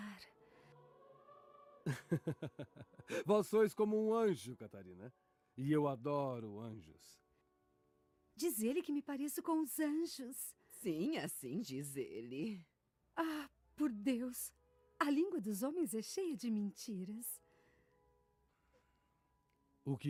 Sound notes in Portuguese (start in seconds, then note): 1.8 risadas